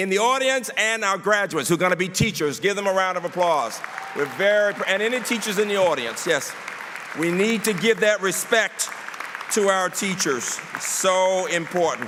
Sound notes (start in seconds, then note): 4.8 applause